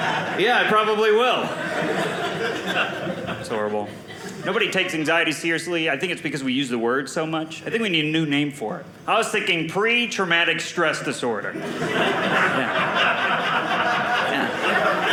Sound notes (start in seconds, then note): 1.9 audience laughing